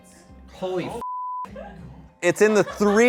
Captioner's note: beep